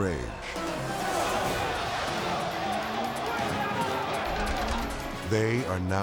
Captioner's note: prisoners shouting